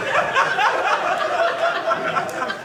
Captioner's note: audience laughing